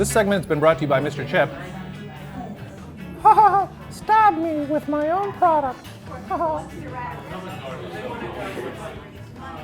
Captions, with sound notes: This segment has been brought to you by Mr. Chip. (laughing) "Stab me with my own product". (laughing)